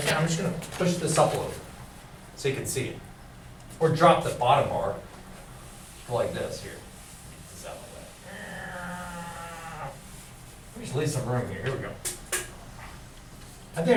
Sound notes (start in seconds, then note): 8.8 imitates airplane